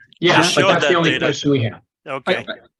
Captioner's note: indistinct chatting